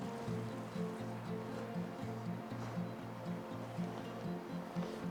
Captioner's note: serene guitar music; laughing